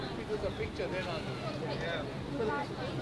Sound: people chattering

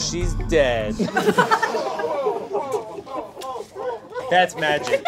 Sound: audience laughs

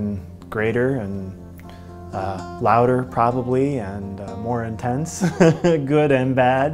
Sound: laughs

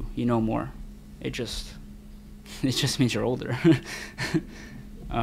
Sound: laughs

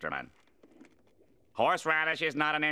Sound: none

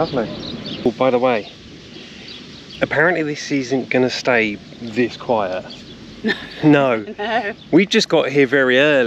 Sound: laughter

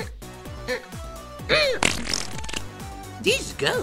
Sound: fart

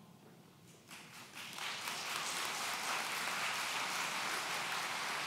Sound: audience applauds

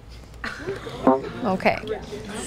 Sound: participant gasps

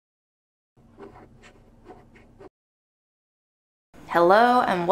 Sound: images shuffling

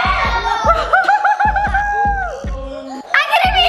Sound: cheering

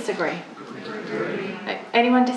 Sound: audience response

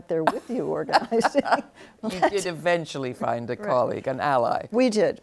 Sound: laughs

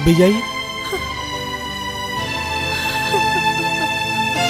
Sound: crying

